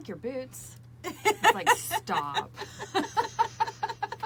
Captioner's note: laughs; both laughing